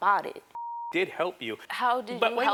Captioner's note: beep